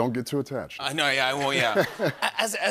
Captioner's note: laughter